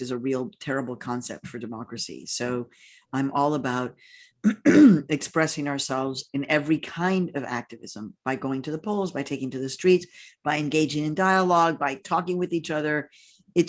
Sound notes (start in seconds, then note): 4.4 clears throat